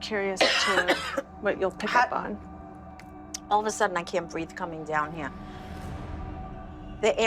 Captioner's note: coughs